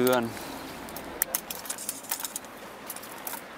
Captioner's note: metallic sounds